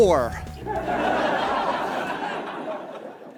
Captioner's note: audience laughs